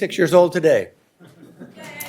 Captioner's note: cheering and applause